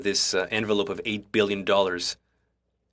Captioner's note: speaking French